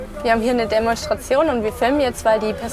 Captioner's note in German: none